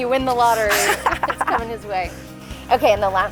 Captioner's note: both laugh